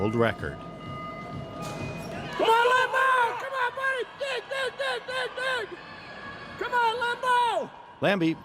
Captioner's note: incoherent yelling